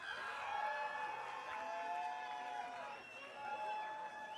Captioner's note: audience cheering